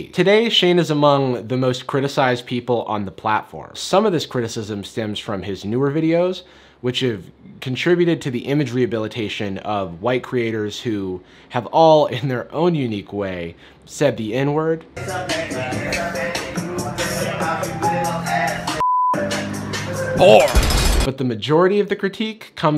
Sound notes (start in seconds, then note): 15.0 rap music; 18.8 beep; 20.5 prison bars clinking